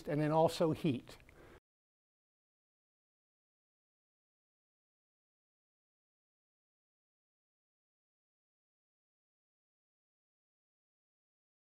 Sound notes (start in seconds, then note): none